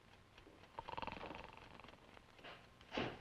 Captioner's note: ticking; snoring